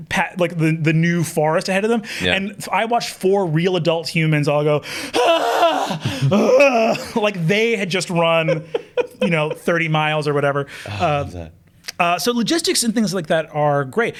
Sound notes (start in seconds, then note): 5.0 wailing and panting